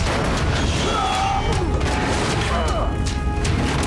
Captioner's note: grunting